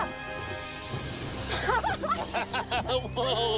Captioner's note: group laughing